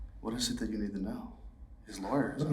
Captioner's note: none